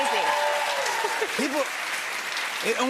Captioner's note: cheers and applause